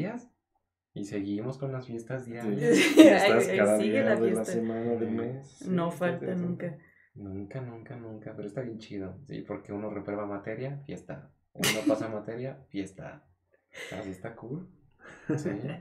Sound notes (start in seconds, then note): 2.4 laughing and agreeing